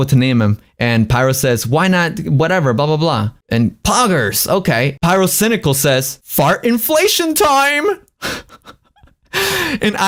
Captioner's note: laughs